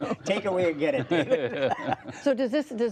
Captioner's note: laughter